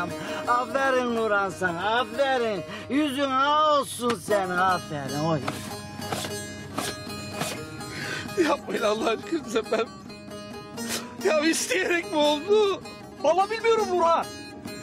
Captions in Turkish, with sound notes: Aferin Nurhan! Sana aferin! Yüzün ah olsun senin! Aferin oğlum! (Vurma sesi) (Müzik - Uzun hava) Yapmayın Allah aşkınıza, ben... ...ya isteyerek mi oldu? Vallahi bilmiyorum Nurhan...